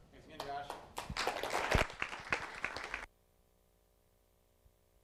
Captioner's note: applause